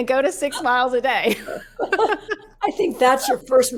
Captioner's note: laugh